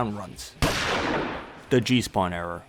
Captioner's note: gunshot